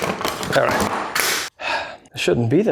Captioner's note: sigh